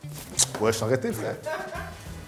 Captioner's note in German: flucht auf Französisch